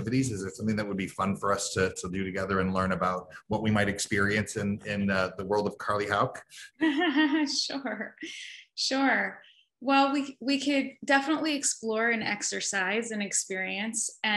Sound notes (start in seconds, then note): 6.8 laughs